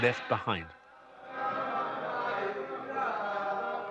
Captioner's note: praying in hebrew